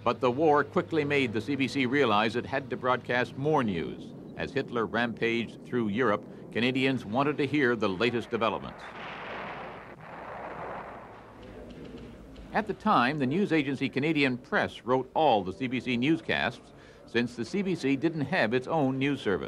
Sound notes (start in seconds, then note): 11.2 explosions